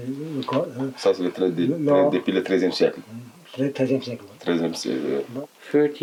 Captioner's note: French